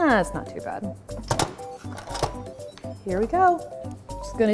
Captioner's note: lid closing